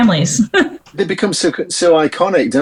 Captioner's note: laughs